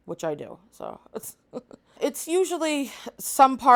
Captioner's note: laughs